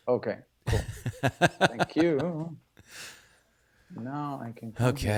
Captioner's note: laughing